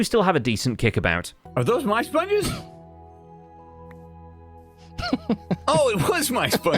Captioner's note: laughs